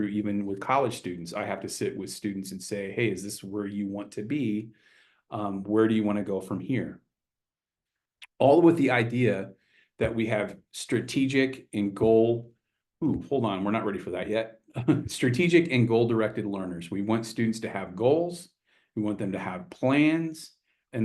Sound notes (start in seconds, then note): 14.7 chuckles